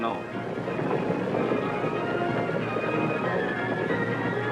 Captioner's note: hooves thudding